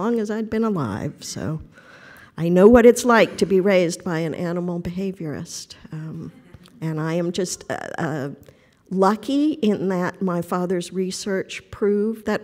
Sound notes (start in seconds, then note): none